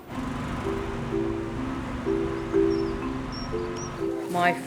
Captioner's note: tractor engine revving; calm music